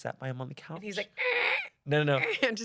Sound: imitates creaking

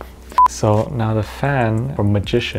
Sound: beep

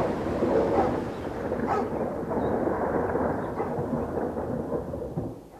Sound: dog barks; rolling thunder

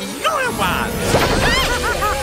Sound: gasps

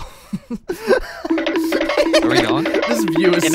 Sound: laughing

